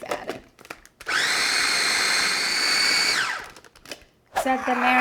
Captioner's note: food processor whirring